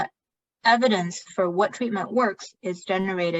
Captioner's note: speaking chinese